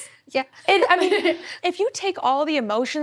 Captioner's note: laughs